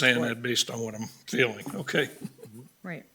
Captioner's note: laughing